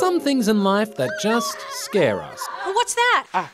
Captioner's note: screams